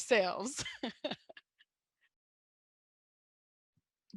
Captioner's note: chuckles